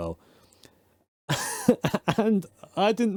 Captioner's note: laughs